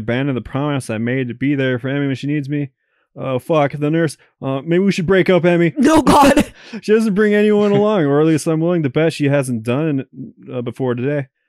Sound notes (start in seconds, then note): 7.4 giggles